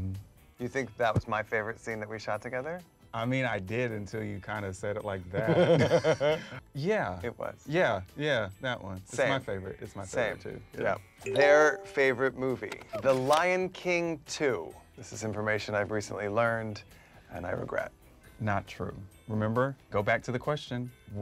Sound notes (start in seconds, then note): 5.3 Michael laughs